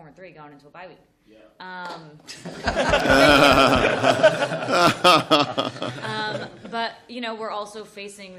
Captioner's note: laughter